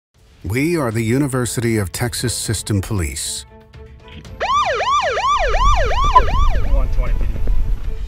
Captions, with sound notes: We are The University of Texas System Police. (siren)